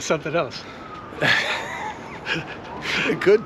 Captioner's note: both laugh